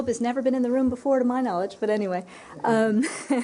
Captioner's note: laughter